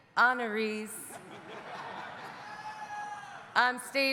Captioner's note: audience laughing